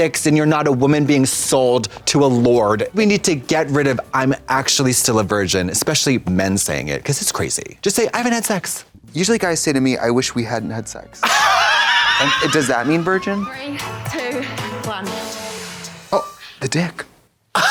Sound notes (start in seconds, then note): 11.4 Katya hisses